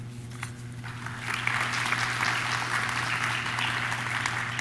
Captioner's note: audience claps